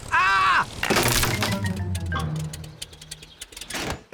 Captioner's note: crunching